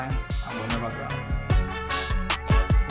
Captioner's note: speaks in foreign language; energetic upbeat music